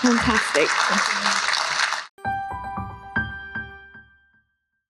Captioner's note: applause